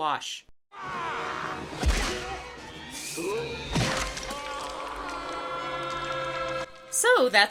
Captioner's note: punching sounds, yelling